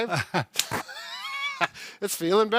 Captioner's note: laughing